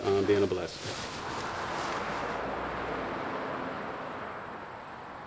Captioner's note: vehicles whooshing